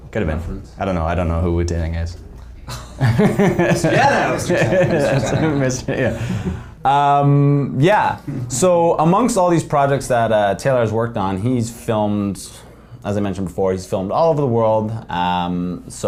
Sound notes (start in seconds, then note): 2.7 guys laughing